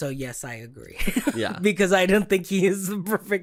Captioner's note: laughing